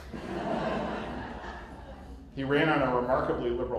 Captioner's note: laughter